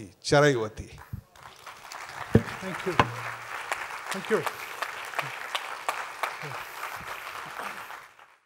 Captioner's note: applause